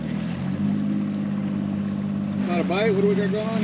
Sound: boat engine idling

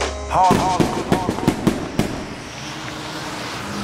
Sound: gunshots

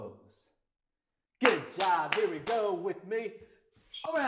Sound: clapping

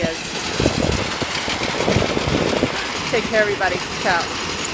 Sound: truck rumbling

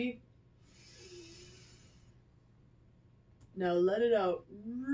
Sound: inhales

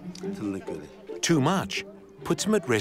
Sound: speaking Uyghur

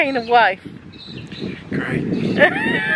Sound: laughing

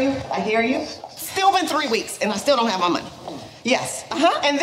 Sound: none

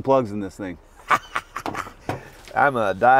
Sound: laughs

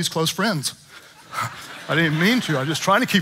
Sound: chuckling

